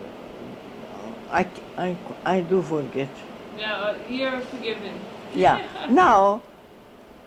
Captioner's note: laughs